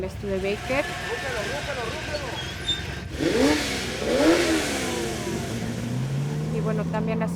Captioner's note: engine roaring